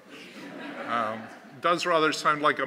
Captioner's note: laughter